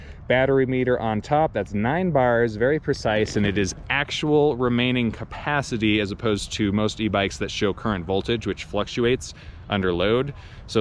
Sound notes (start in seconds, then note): none